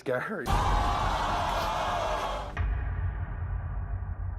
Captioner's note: audience shouts